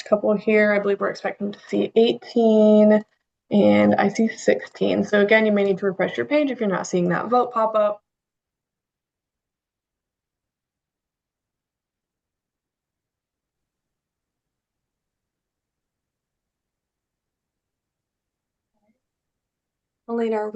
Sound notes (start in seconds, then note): 15.3 pause